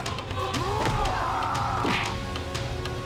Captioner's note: grunting; punch